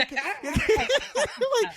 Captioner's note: laughing